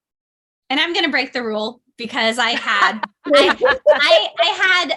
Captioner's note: laughter